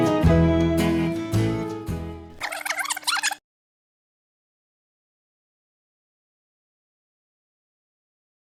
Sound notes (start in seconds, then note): 2.4 tape rewinding